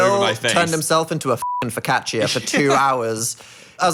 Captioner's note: beeping